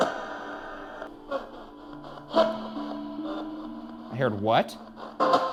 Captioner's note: device buzzing